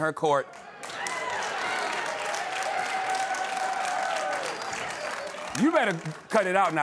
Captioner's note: cheering and applause